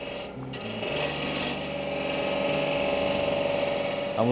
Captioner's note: machine whirring